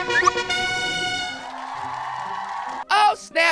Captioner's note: ovation from the crowd